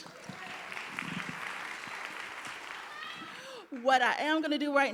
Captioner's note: audience applauding